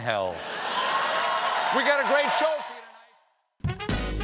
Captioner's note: cheers and applause